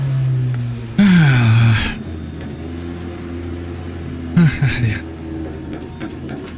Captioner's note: relieved sigh